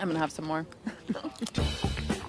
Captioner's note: both laugh